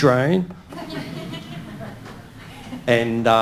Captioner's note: audience laughing